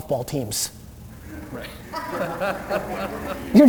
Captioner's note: laughter